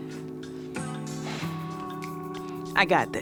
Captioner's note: employee #2 exhales